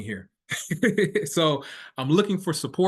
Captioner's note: laughing